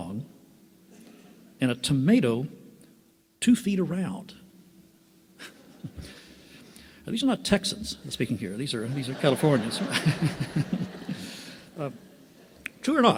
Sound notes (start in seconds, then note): 5.3 laughs